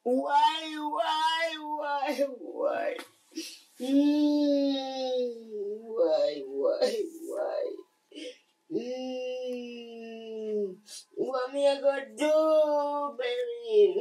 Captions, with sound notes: Why, why, why, why? (wailing) Why, why, why? (wailing) What are we gonna do, baby?